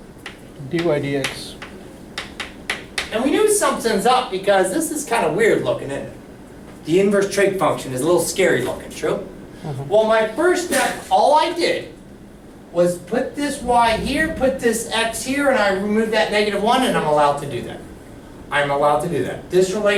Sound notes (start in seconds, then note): 1.1 voiceover